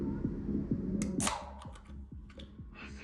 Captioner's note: can cracks open